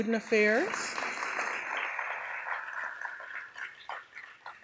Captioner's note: audience applause